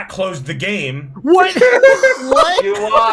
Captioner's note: laughing